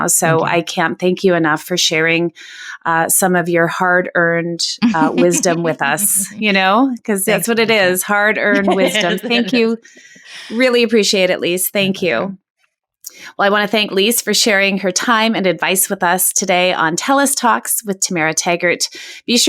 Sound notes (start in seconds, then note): 7.1 laughing